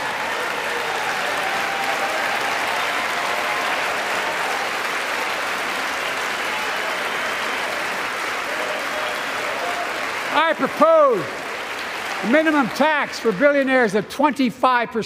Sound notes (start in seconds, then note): 0.0 applause